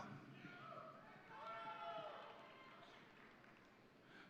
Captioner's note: audience cheering